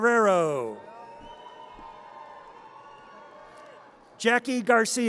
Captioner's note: audience cheers